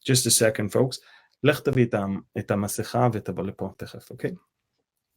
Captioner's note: speaking Hebrew